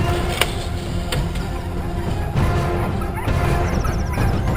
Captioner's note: dramatic music; dogs barking